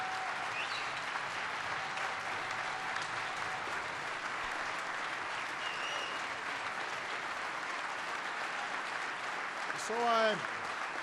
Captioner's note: applause